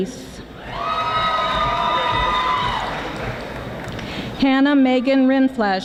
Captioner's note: audience applauding